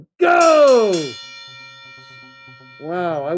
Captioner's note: bell ringing